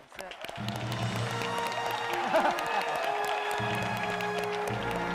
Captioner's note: murmuring; cheering and applauding